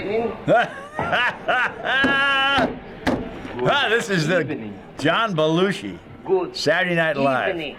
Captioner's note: laughs and bangs table